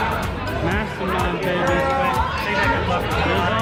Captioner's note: various people talking